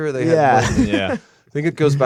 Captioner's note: laughter